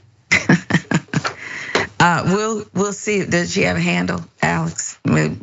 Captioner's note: laugh